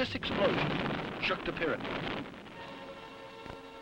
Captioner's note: explosion blasts